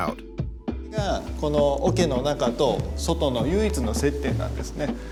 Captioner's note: speaking Japanese